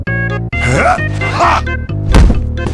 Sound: grunting, throwing heavy body; body slams onto table and floor

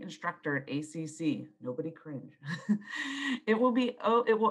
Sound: laughs

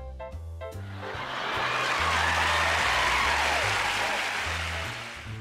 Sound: people cheering and clapping

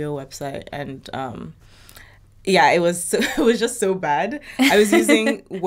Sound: laughs

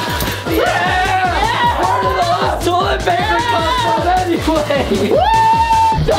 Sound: yelling

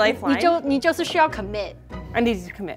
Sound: speaking in mandarin

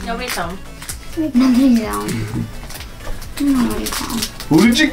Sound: giggles

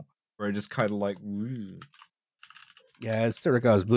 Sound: someone's keyboard clicking loudly

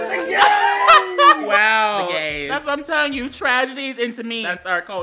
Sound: laughing

